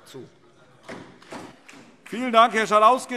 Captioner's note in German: Beifall DIE LINKE